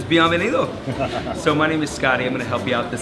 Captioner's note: laughs